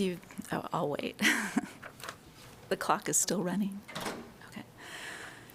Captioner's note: laughter